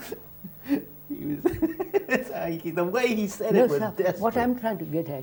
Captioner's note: laughter